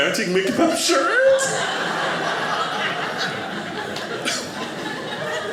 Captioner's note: audience laughing